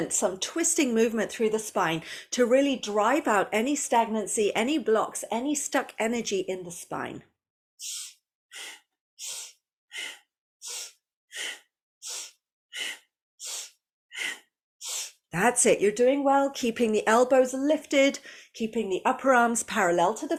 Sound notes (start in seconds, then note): 12.8 breathes